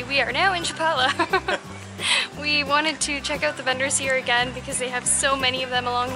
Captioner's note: laughter